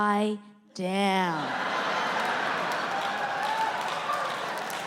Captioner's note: audience laughing